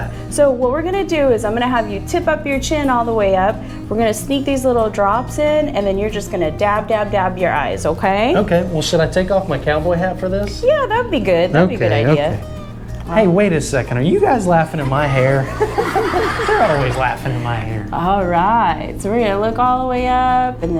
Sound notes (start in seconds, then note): 14.8 all laughing